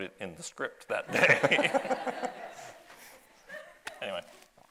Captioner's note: audience laughs